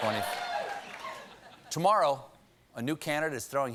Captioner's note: laughter